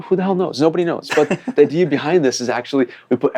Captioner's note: laughs